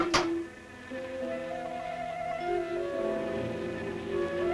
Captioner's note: buzzing